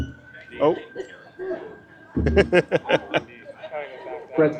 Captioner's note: laughing